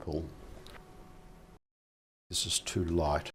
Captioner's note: silence